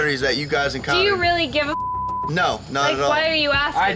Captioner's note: beep